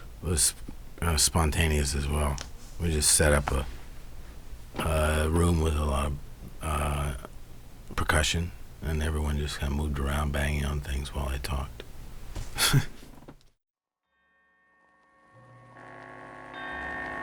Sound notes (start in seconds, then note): 12.5 laughs; 15.4 ominous music